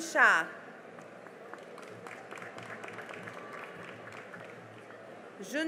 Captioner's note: cheering and applause